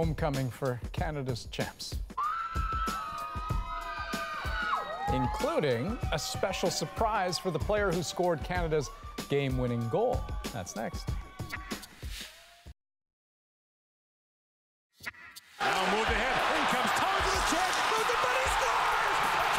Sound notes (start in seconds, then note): 5.1 cheers and applause